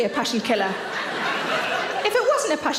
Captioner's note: audience laughs